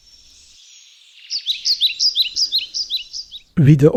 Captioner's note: birds singing